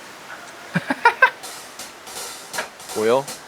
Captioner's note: badump